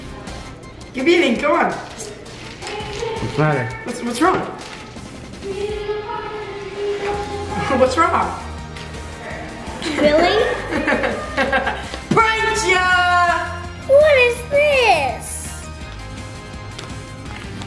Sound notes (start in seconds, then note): 6.8 woman yelling; 9.1 laughing